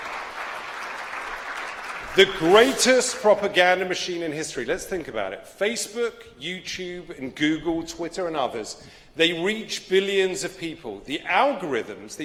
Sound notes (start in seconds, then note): 3.1 applause